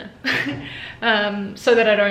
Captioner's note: laughing